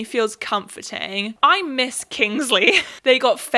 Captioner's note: laughs